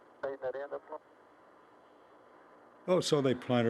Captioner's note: chatter on radio